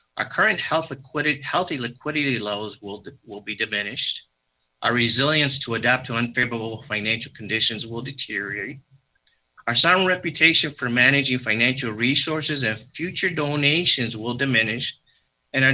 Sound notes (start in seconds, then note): none